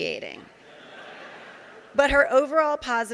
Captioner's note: audience laughing